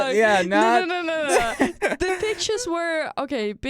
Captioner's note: laughs